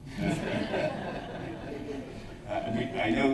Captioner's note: laughter